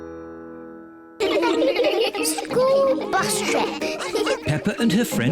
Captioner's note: giggling